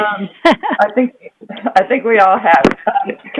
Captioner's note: laughter